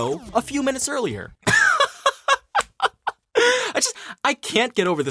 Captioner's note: laugh